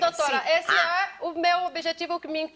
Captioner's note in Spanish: habla en portugués